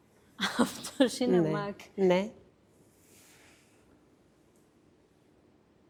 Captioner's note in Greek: γέλια